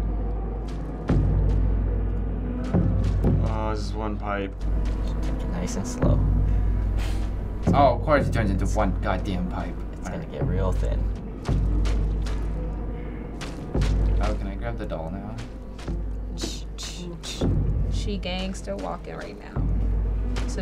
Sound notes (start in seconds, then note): 0.6 meat squelching; 4.5 meat squelching; 11.2 meat squelching; 16.2 imitating meat squelching